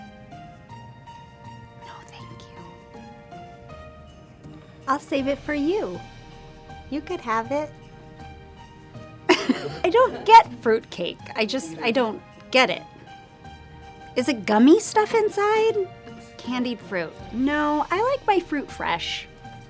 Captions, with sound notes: No thank you. I'll save it for you! You could have it. (laughs) I don't get fruitcake. I just don't get it. Is it gummy stuff inside? Candied fruit. No, I like my fruit fresh.